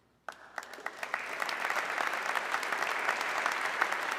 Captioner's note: audience clapping